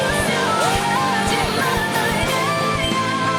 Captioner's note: cheering